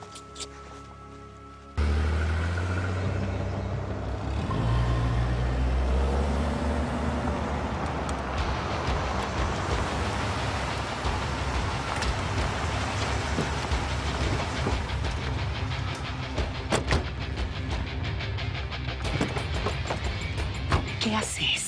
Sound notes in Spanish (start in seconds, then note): 3.0 Sonido de los motores